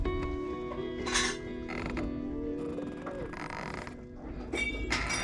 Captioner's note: wood creaking